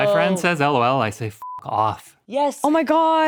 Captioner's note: beep